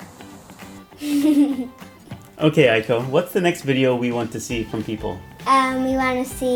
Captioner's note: laughs